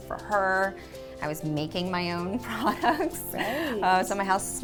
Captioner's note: chuckles softly